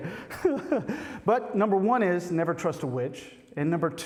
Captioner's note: laughter